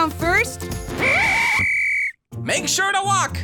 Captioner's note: whistle blowing